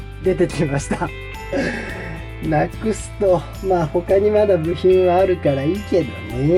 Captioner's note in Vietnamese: cười